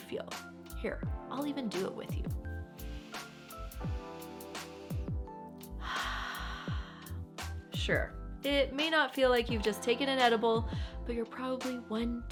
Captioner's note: breathe